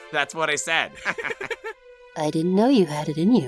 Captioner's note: laughter